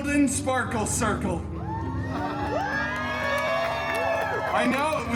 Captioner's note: guests cheering